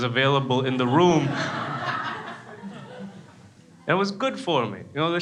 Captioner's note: crowd laughs